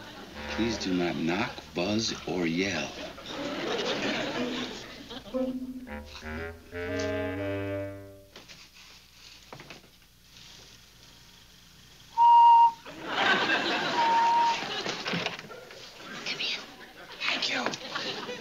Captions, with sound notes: Please do not knock, buzz, or yell. (whistle) (whispers) Come in. Thank you.